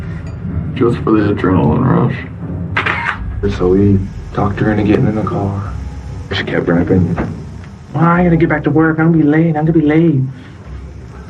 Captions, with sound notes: just for the adrenaline rush. [shutter clicks] So we talked her into getting in the car and she kept running back saying, "I gotta get back to work. I'm gonna be late, I'm gonna be late."